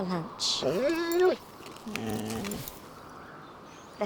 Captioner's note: whimpers